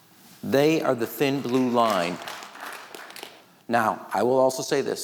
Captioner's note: audience clapping